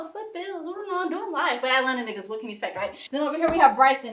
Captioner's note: none